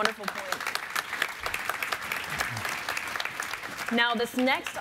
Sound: audience applauding

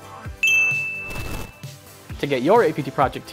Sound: bell dings

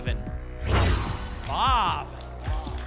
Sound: whoosh

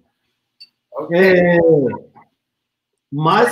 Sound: speaks portuguese

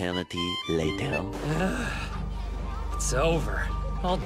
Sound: sigh of relief

